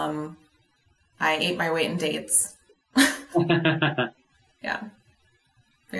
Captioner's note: both laughing